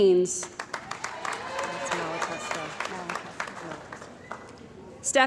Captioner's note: cheering & Applause